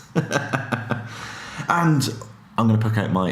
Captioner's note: laughing